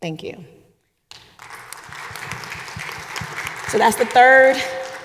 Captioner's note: audience applauding